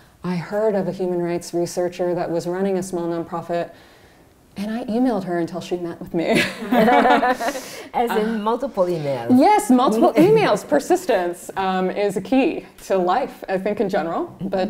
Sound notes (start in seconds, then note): 6.3 laughter